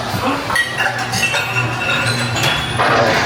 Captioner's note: glass breaking